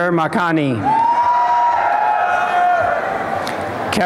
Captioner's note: applause and cheering